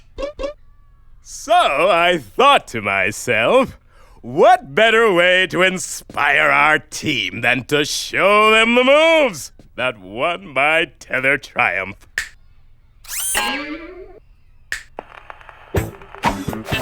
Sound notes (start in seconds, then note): 12.0 snaps fingers; 14.7 snaps fingers